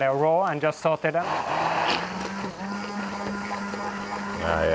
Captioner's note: whirring